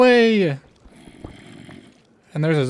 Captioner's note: Zombie groans